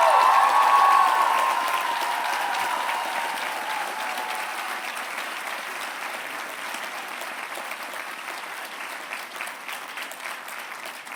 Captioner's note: applause